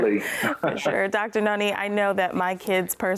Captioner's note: laughs